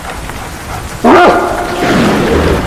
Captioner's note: dog barks